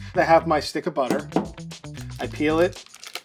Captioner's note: butter tapping